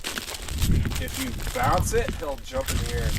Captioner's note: wind whirring